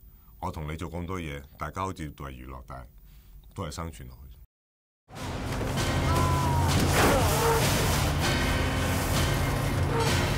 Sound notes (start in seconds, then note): 6.0 screams